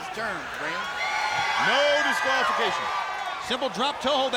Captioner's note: crowd cheering